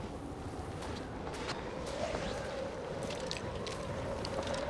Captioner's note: wind whistling